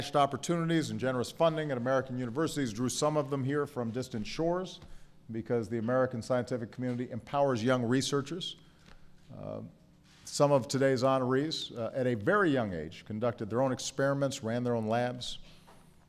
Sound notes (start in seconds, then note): none